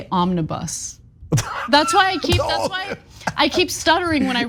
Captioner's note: laugh